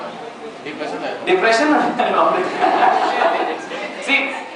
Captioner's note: laughs